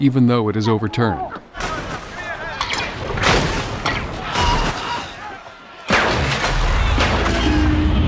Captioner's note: funnel Cables Snapping